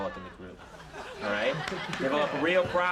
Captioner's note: audience laughing